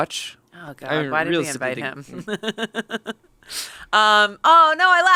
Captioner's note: chuckles